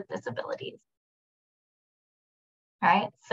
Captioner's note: silence